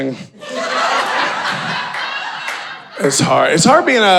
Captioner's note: audience laughing